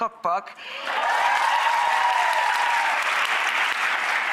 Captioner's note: audience claps